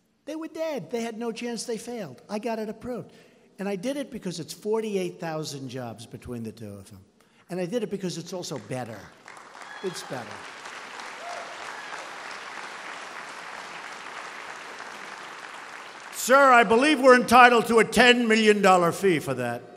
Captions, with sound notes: They were dead; they had no chance, they failed. I got it approved. And I did it because it's 48,000 jobs between the two of them. And I did it because it's also better. It's better. (Applause.) Sir, I believe we're entitled to a $10 million fee for that.